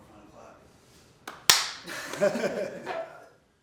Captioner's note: clapping hands; laughing